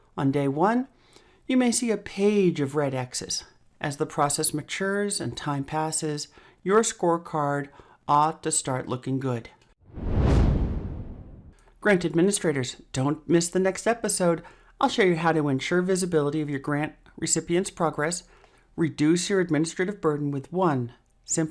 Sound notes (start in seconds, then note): 9.9 dramatic sound